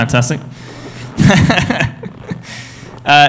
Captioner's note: laughs